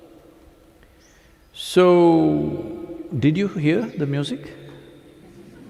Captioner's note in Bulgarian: смях